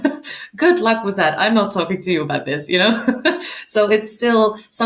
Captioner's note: chuckling; chuckling